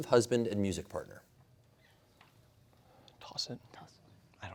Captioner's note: whispering